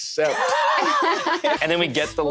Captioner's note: laughter